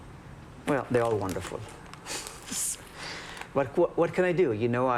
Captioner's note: laughs